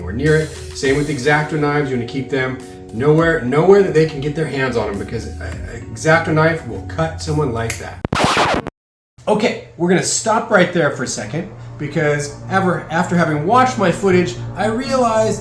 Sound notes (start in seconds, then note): 8.0 record scratch